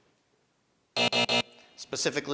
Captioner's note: buzzer buzzing